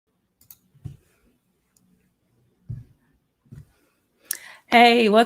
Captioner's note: computer mouse clicking